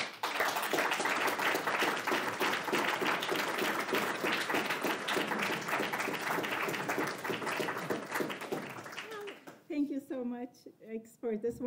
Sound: applause

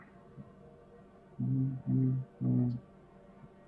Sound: counting wordlessly

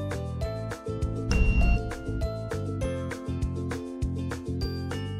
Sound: thermometer beeps

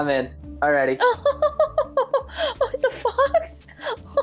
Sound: chuckles

